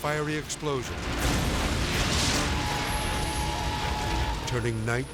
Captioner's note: gas exploding